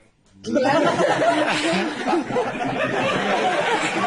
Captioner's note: risas